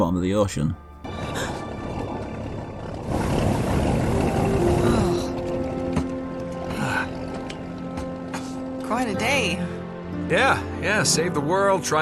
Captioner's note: in-game audio